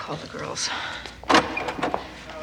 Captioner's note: door opens